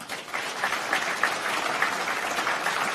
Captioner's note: applause